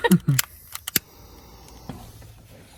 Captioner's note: both laugh; lighter clicks and hisses